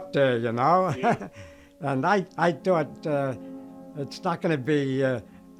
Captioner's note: chuckles